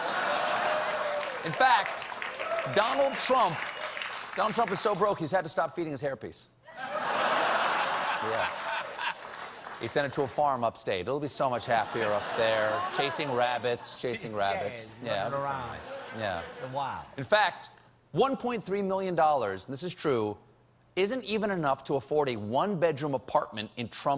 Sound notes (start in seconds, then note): 0.0 applause; 6.7 laughter